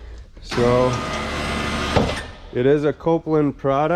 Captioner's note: machine whirs